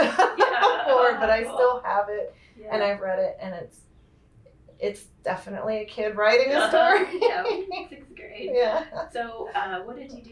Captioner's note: laughter